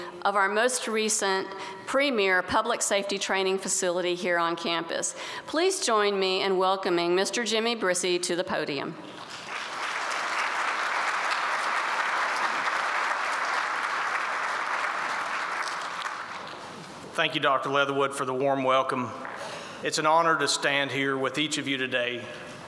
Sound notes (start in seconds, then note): 9.1 applause